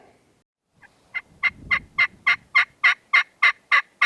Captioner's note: turkey call